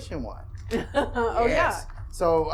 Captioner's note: laughing